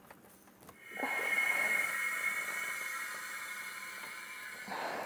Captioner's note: air whooshing